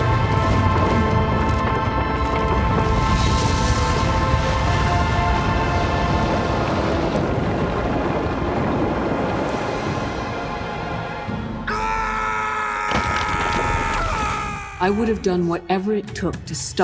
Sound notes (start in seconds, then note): 11.6 screaming